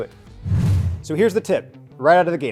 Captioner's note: fast whoosh